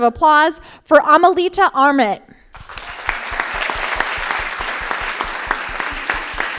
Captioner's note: crowd applauding